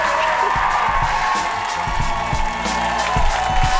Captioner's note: cheering and applause